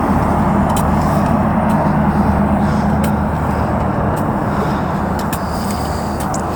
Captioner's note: traffic whooshing; sand rustling